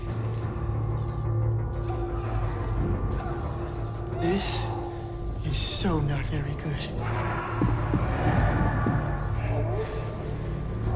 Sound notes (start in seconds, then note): 0.2 foreboding music; 1.8 voices wailing; 7.6 voice growls